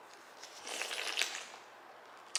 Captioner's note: slurping